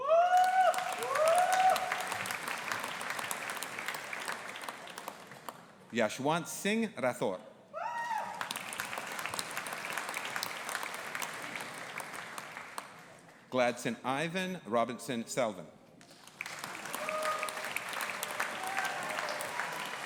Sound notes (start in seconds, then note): 0.0 audience applauding and cheering; 8.0 audience applauding and cheering; 16.0 audience applauding